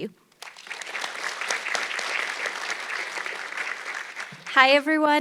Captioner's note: audience clapping